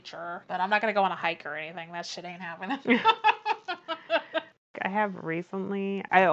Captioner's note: laughs